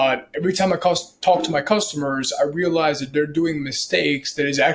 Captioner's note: device dings